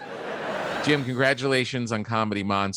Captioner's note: audience laughing